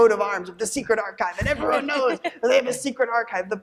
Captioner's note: laughter